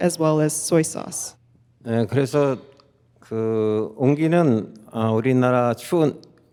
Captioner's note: speaking in Korean